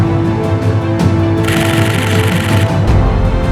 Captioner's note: shutter noises